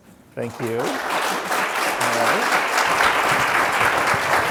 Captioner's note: audience claps